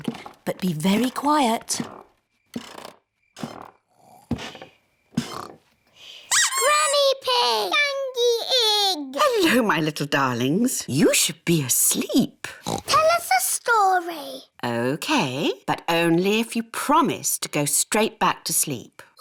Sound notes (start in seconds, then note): 0.0 stairs creak softly; 5.1 both snore; 6.3 duck squeaks; 12.6 oinks